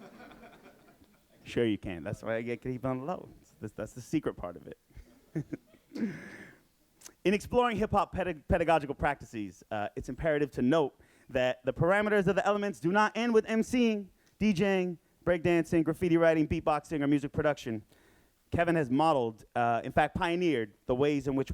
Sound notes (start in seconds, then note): 0.0 audience laughing; 5.4 audience laughing